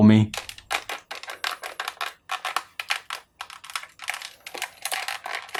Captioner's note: plastic creaking